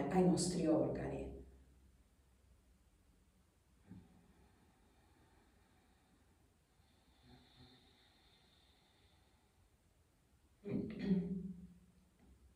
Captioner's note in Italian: schiarire la voce